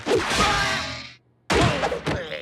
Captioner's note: exclaiming